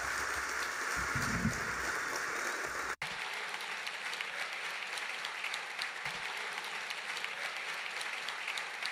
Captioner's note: applause